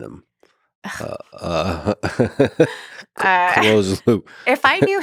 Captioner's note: both chuckle